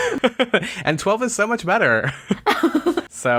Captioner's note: laughs